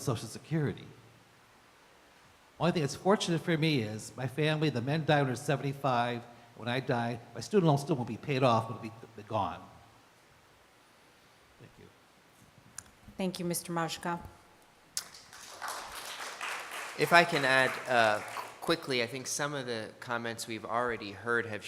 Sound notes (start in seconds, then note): 15.0 applause